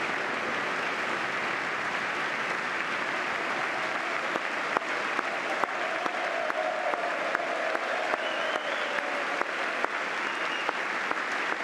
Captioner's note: applause